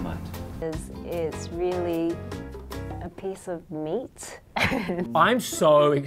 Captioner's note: chuckles